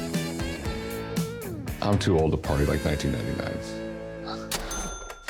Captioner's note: laughs